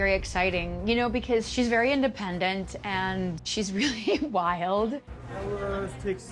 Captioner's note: chuckling